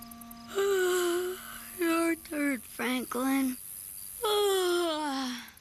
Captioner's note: yawn; yawn, yawn